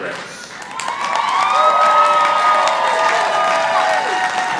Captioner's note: audience applauding